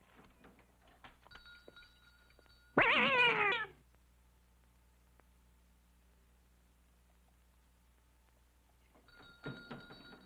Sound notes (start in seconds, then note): 1.3 bell ringing; 2.8 cat screeching